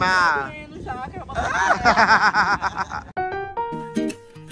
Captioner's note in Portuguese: risos